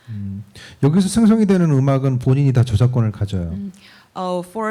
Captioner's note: speaking korean